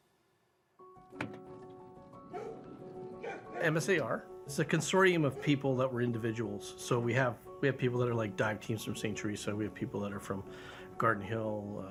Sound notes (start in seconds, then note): 2.7 piano music; 3.2 dog barking